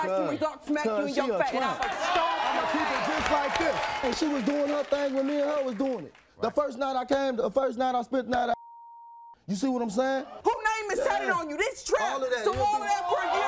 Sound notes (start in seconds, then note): 8.6 beeping